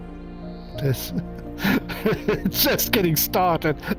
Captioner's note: laughing